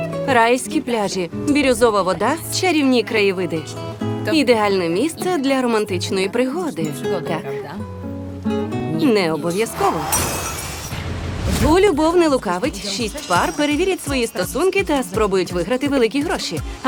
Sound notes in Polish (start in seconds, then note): 9.5 zderzenie, brzdęk szkła